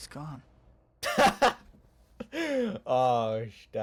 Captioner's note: laughs